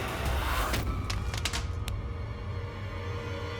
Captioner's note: thudding sound